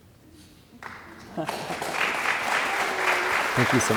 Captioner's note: audience applauding